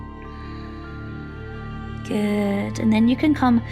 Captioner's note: calm music; exhales